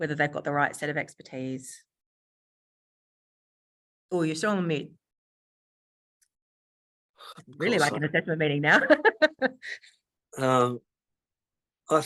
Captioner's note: laughs